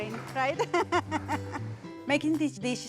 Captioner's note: laughter